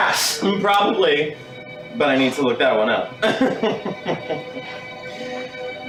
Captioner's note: laughs